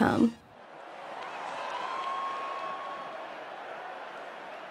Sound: cheering

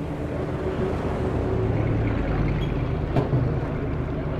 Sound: trucks rumbling

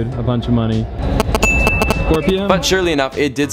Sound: phone pinging

